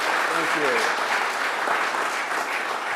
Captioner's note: applause